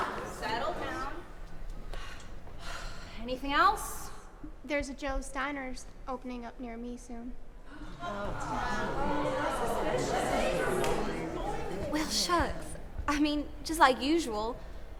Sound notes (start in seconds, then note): 1.3 sigh; 8.3 more agitated talking